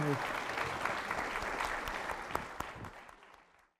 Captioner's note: audience clapping